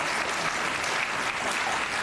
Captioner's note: applause